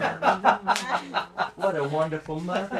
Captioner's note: laughing